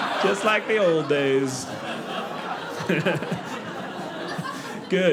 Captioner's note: audience laughing